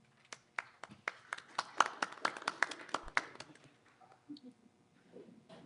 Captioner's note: applause